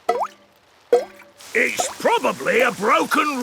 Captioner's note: water dripping